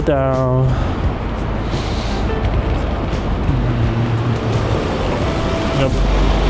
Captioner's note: wind Blowing